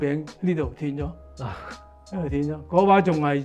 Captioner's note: laughs